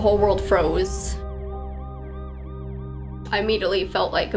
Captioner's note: distant siren wailing